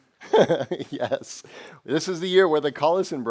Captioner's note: laughing